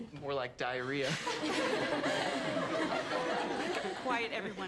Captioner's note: students laughing